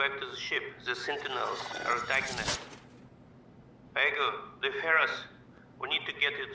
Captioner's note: voice-over; voice-over